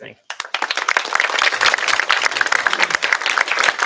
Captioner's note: applause